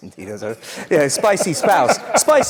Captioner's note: laugh